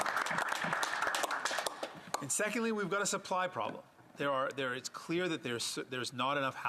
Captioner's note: some Applause